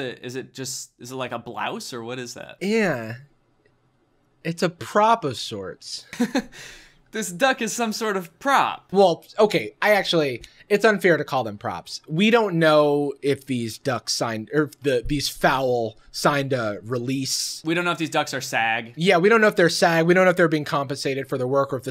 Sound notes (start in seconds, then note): 6.0 Danny laughs